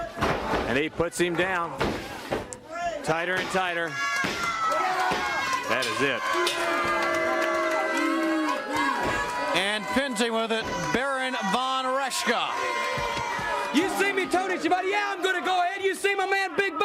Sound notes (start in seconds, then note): 0.0 crowd chatter; 5.1 bell ringing; 7.1 crowd chatter